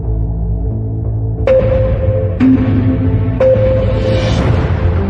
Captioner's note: countdown sound effects